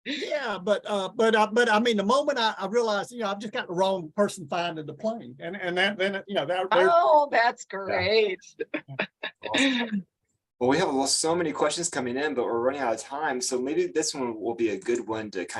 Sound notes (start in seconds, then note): 8.4 chuckles